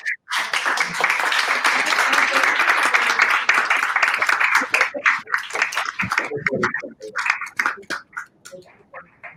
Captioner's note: aplausos